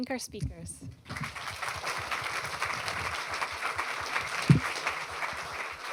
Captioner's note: applause